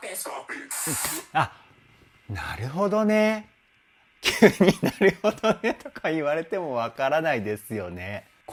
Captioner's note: laughs